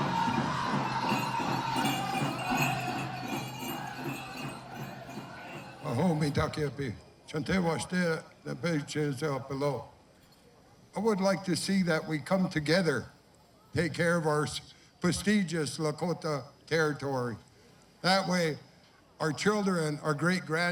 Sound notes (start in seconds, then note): 0.0 man shouting orders; 6.4 speaking Lakota